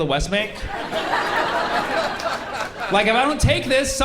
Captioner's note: laughter